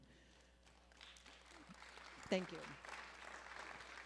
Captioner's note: applause